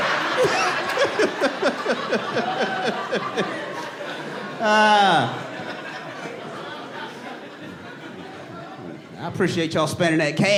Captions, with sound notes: [SIGHS] I appreciate y'all spending that cash, man.